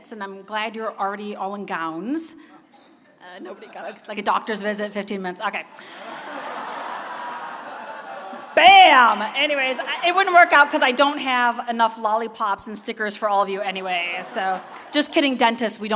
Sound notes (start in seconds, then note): 5.8 laughter